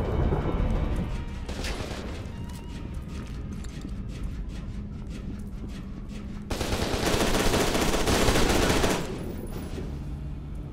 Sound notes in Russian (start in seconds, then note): 2.7 однообразная чагга-чагга; 6.5 стрельба